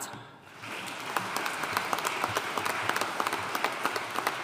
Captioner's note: audience applauding